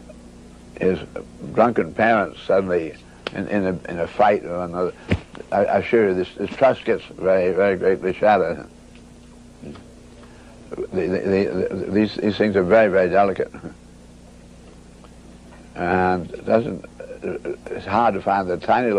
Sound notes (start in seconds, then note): 5.0 smack